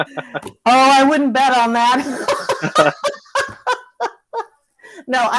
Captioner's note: laughs; laughs